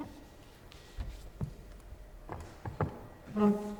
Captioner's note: chair scraping